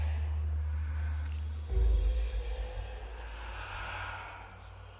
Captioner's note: ghosts whispering